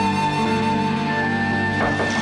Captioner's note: knocking on door